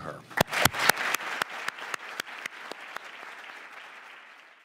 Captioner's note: enthusiastic clapping